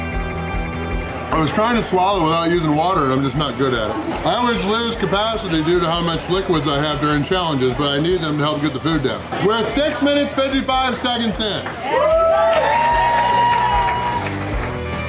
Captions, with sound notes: I was trying to swallow without using water. I'm just not good at it. I always lose capacity due to how much liquids I have during challenges, but I need them to help get the food down. We're at 6 minutes 55 seconds in. Whoo!! (crowd cheering)